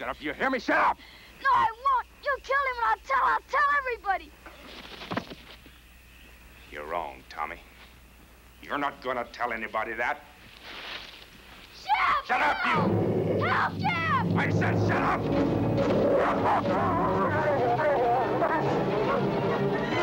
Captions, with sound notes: Shut up, you hear me, shut up. No, I won't, you killed him and I'll tell everybody. (thud) You're wrong, Tommy. You're not gonna tell anybody that. Shep, help. Shut up you. (Shep growling) Help Shep. I said shut up. (intense music) (Shep growling)